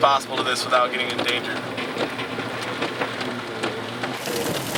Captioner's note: hail pattering